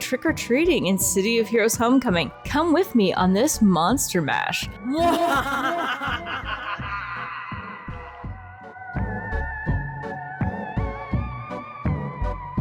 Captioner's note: evil Cackle